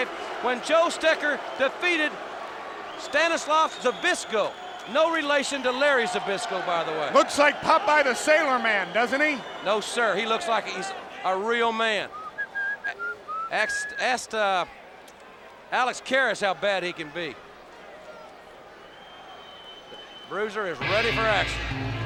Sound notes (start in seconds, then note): 12.3 Bob whistling "Popeye" theme song